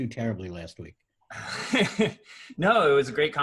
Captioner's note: laughs